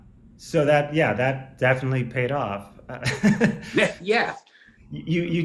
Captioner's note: laughs